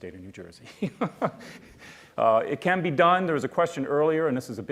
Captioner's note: laughs